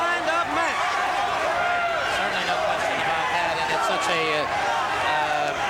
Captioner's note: crowd cheering